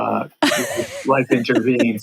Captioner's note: laughs